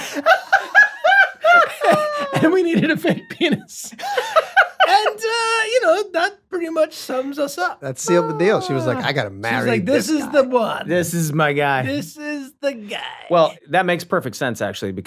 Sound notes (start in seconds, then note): 0.2 Glenn cackles; 4.1 Glenn laughs